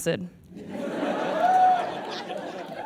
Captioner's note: audience laughs; spectator whoops